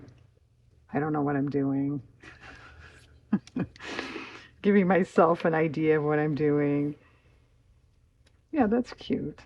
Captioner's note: laughs